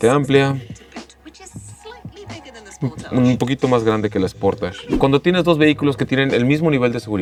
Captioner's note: woman speaking in English